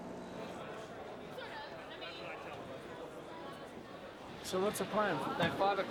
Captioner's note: people chattering